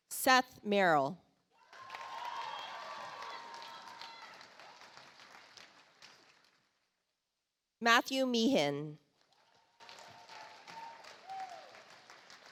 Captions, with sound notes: Seth Merrill. (audience applauds) Matthew Meehan. (audience applauds)